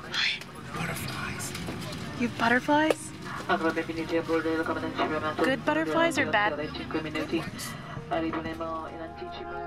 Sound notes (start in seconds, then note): 3.8 speaking foreign language